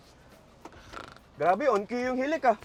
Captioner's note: snoring